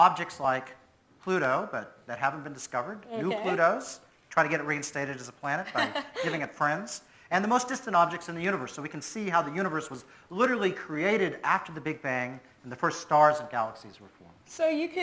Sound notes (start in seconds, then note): 5.6 presenter laughs